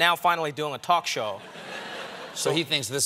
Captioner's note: laughter